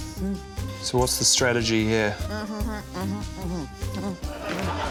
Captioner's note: grunts; laughter